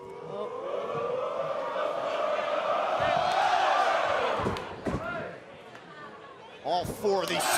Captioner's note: fans chanting